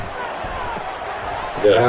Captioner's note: crowd Noises